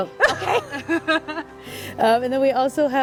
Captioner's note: laugh